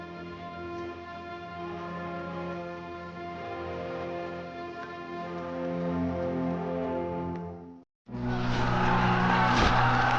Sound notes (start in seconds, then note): 8.2 soldiers yelling